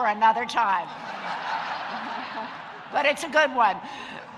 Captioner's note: audience laughing